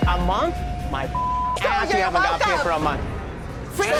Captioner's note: beep